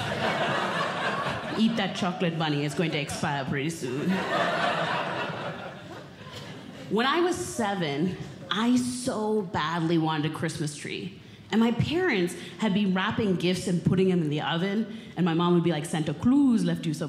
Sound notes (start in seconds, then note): 0.0 audience Laughing